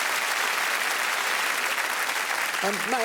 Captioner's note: applause